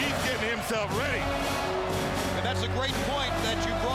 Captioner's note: crowd cheering; upbeat marching music